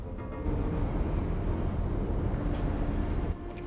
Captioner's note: waves crashing; dramatic music